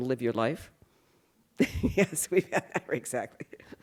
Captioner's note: laughs